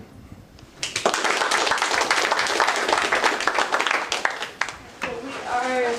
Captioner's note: applause